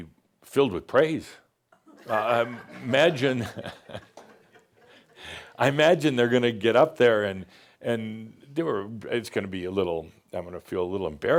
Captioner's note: some chuckles